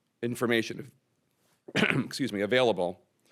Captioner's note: coughs